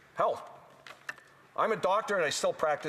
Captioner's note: speaking French